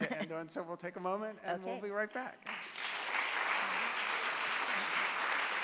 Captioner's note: audience Clapping